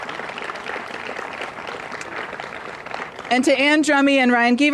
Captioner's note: applause